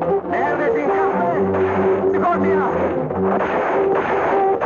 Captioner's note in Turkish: Tüfek sesleri